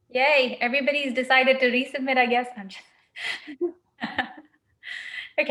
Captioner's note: laughs